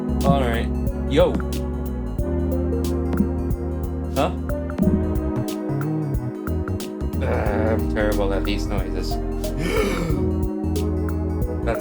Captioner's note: gasp